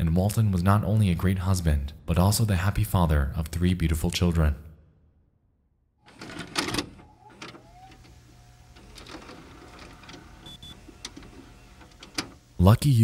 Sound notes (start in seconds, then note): 6.1 cassette clacks; 7.8 VHS machine whines